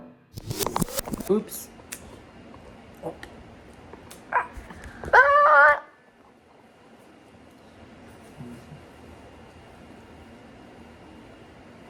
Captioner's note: weird cacophony of fake camera noises